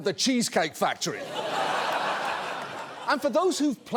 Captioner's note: studio audience laughs